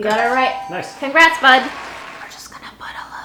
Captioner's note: crowd cheering